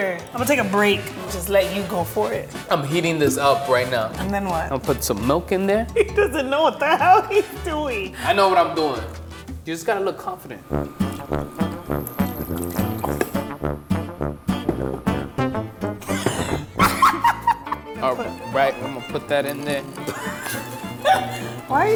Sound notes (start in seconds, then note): 12.3 liquid splashing; 16.0 laughing